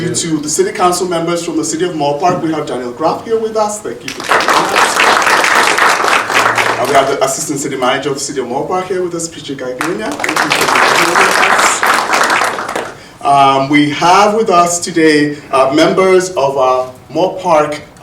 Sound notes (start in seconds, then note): 4.1 audience applauding; 9.8 audience applauding